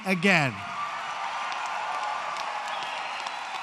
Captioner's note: applause